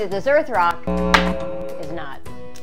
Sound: error buzz

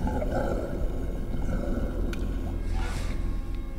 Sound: growling grows louder

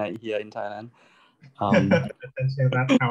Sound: laughing, indistinct

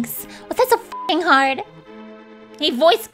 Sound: beep sound

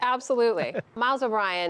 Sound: laughter

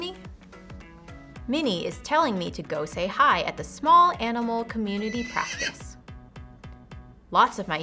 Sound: neighing sound

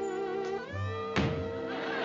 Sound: thud

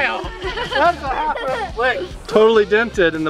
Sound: laughing

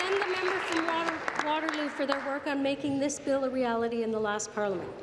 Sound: applause

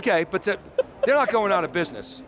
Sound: laughing

